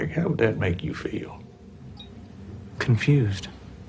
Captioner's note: beeping continues